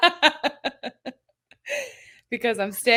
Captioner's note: laughing